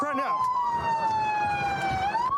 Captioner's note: sirens blaring